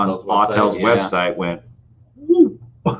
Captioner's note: laughing